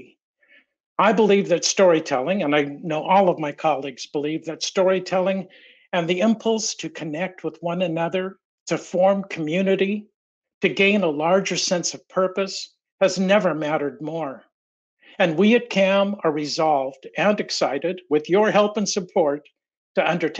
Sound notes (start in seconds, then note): none